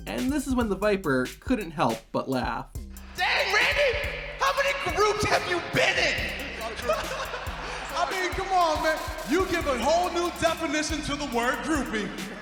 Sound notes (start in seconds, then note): 6.4 Kofi laughing